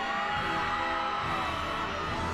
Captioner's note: people cheering wildly